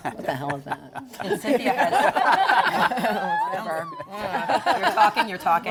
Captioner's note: laughter